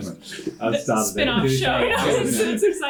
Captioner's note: laughter